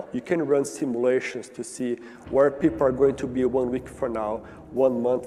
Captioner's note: slowed down for emphasis